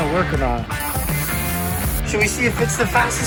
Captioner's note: spray can spraying